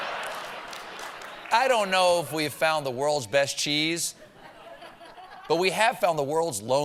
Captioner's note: laughter